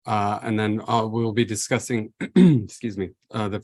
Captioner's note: clears throat